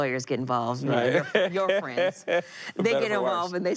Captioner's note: laughs